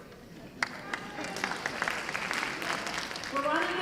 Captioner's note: applause